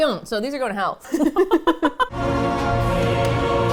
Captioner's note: both laugh